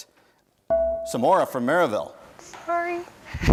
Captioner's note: bell rings